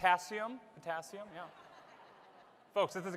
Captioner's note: laughter